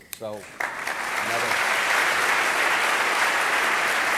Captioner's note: audience applauding